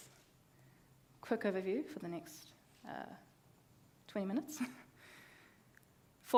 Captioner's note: laughs